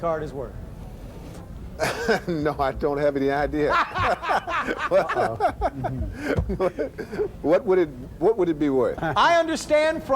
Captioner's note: laughs